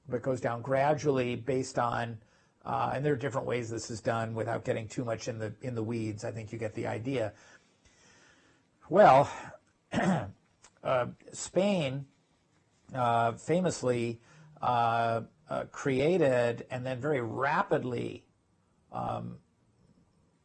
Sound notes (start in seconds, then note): 9.9 cough